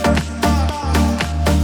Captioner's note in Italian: Applauso